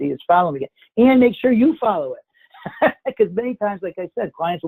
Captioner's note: laughs